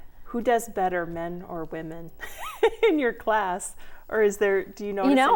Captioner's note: laughing